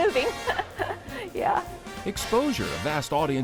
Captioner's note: laughs